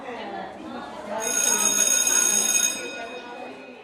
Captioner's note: bell ringing over children chattering